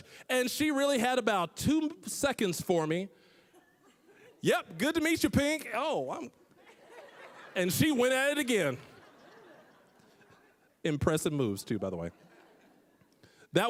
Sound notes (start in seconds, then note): 6.6 audience laughing